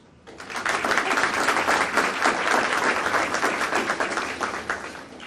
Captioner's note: audience applauding